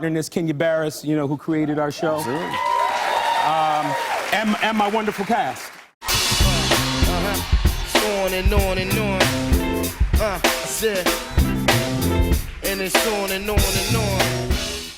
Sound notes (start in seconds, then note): 2.4 cheers and applause